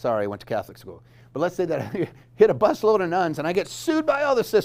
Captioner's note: laughs